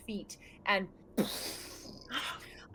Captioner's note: mouth exploding air